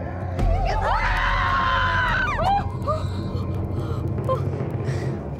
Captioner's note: spooky sounds; girls screaming; mysterious music